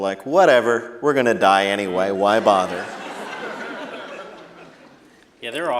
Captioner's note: laughter